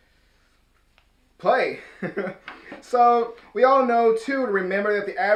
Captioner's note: chuckles